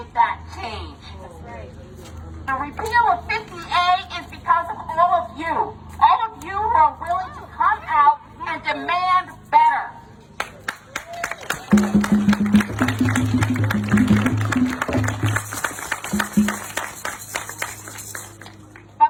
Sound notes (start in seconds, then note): 10.6 audience applauding; 10.9 audience cheering; 11.7 audience drumming rhythmically